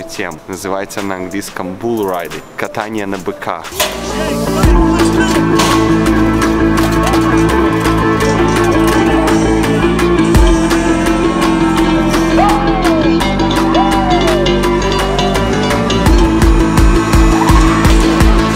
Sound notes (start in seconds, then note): 3.8 intense techno music; 11.1 crowd cheering